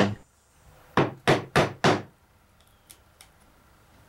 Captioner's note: tools bang